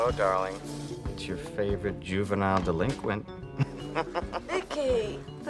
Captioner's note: laughs